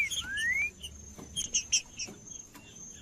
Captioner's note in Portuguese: trinca ferro cantando